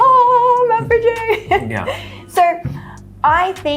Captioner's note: laughs